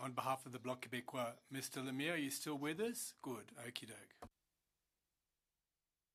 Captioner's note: speaking French